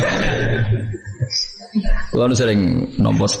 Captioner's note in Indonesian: tertawa